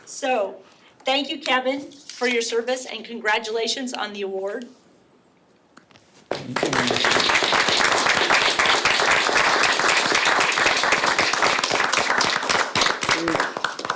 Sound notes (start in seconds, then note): 6.3 all clap